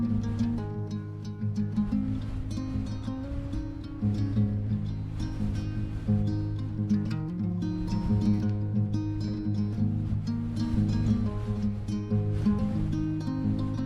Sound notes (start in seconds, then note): 1.7 wind blowing